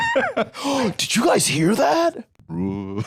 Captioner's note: both laugh; gasps; eerie groan